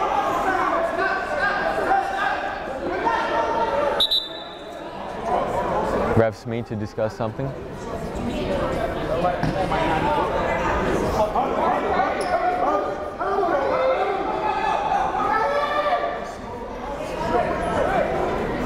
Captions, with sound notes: (whistle blows) Refs need to discuss something. (crowd murmuring)